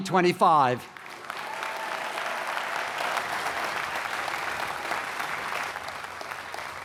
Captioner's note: cheering and applause